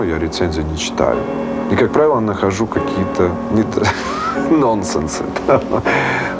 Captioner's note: laughing